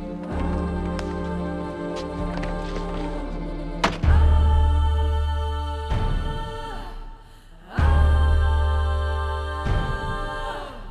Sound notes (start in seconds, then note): 3.8 ax chopping; 7.6 dramatic music